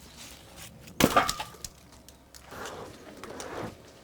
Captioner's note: wood thuds